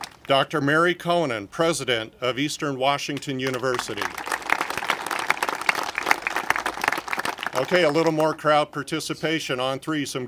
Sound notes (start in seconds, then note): 3.4 congregation applaud